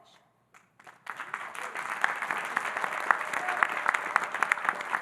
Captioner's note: audience applauding